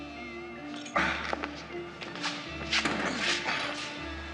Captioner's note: grunting